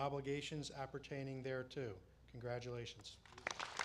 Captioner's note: applause